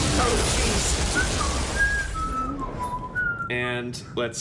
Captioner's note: whistling